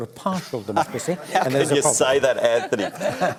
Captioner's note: laughter